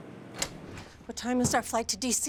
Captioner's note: door rattling